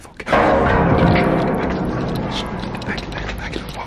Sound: metal clanging

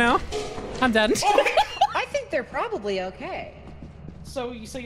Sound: laughs

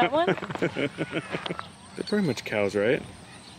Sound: laughs

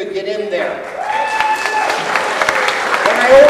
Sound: cheers and applause

